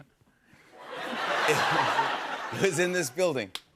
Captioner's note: laughter; chuckles